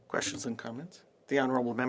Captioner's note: speaking indigenous language